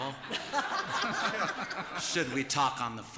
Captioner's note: laughter